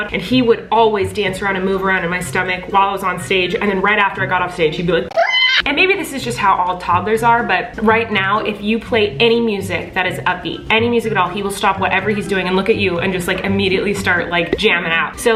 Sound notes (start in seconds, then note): 5.1 screams